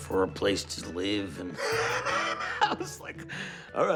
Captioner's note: laughs